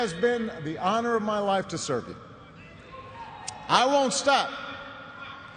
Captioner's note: cheers and applause